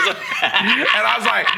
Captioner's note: laughing